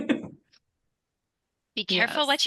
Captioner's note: laugh